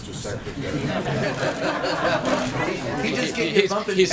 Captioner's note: laughter